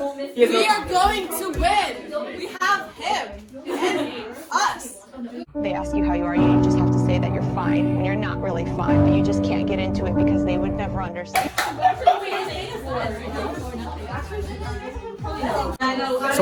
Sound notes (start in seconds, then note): 5.6 excited chatter